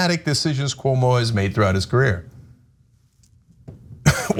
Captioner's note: laugh